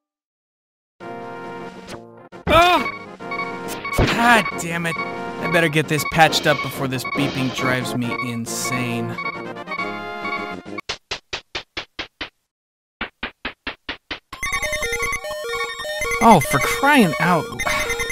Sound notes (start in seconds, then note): 3.2 loud beeping; 11.0 descending footsteps on staircase; 13.2 ascending footsteps on staircase; 14.4 multiple loud beeping; 17.5 sighs